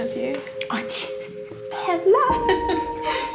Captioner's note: laughter